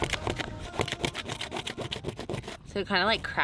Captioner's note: tool scraping